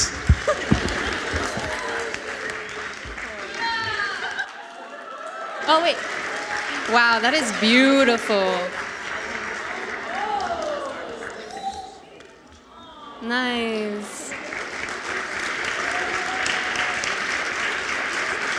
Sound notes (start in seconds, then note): 1.9 audience laughs; 10.7 audience woo; 14.2 audience applauds